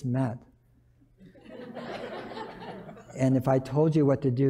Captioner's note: laughter